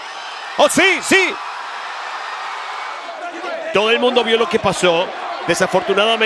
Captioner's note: applause